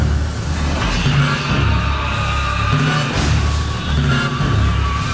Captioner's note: shark roaring